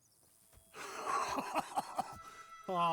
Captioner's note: laughs